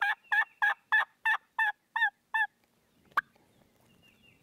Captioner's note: turkey calling